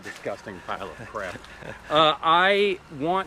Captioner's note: laughs